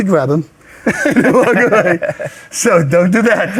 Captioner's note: both laughing